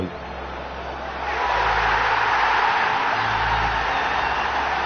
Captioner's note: crowd roaring